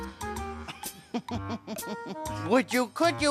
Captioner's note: snickering